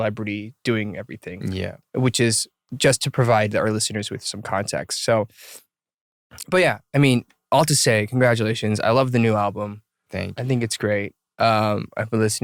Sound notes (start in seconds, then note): none